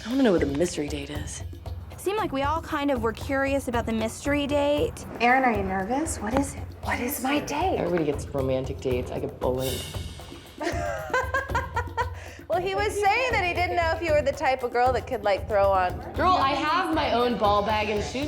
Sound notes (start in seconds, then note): 10.6 laughs